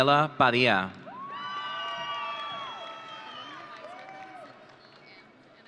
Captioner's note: audience cheering